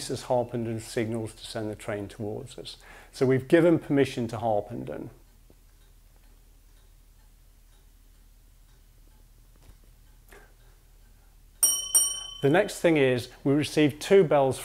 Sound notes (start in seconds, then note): 5.9 silence waiting bells; 11.6 bells rings twice